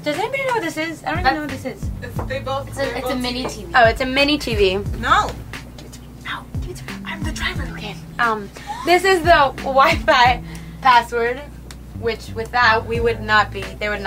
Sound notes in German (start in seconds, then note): 5.9 flüsternd